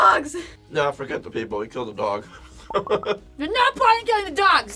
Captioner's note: laughs